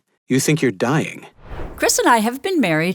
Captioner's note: transition sound effect